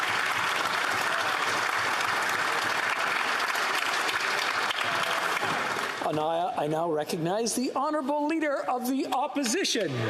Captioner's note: applause